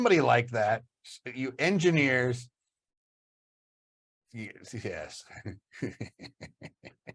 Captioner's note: laughs